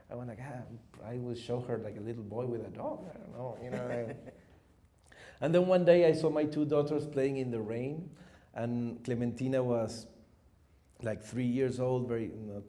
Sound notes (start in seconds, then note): 3.6 chuckles